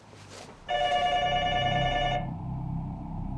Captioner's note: phone ringing